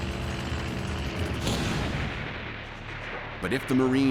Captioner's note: explosion